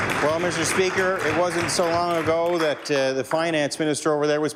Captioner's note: applause